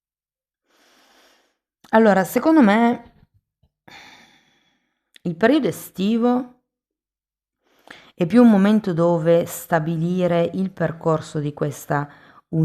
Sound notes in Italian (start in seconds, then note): 3.9 sospiri